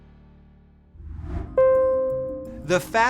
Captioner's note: graphics whooshing; airplane electronic beeping